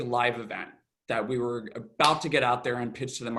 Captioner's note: claps